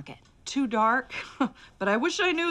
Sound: chuckles

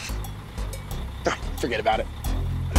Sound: scoffing

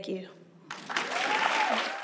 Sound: applause

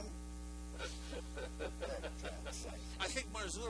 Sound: laughter

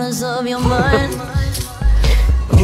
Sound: laughs

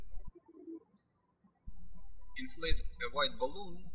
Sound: birds chirping

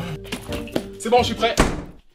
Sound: door slam

